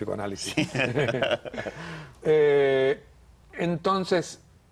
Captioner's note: risas